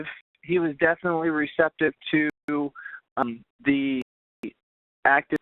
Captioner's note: voice distorting